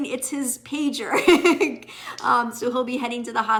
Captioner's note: laughing